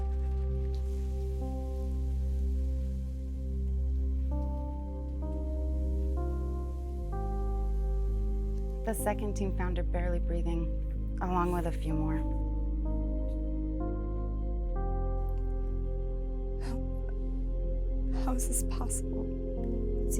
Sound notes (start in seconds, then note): 0.1 sizzling; 0.9 somber orchestral music